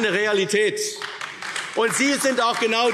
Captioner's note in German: Beifall AfD